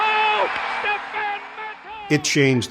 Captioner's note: crowd cheering